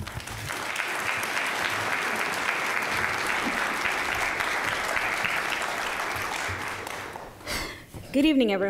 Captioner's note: applause